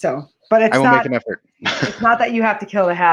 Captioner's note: laughs